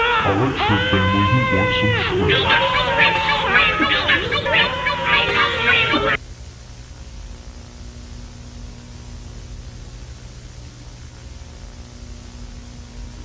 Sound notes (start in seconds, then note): 0.0 ancient Babylonian death screech